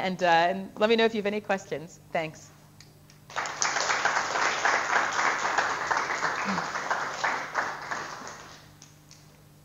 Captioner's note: audience applause